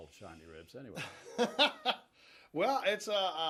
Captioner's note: laughs